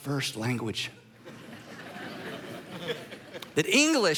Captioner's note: congregation laughing